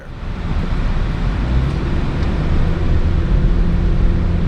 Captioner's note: wind noise hissing